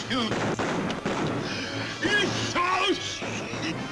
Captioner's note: Barney groans